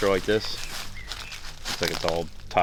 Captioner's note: rustling leaves